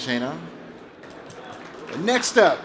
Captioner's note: applause